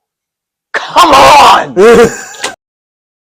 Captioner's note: laughs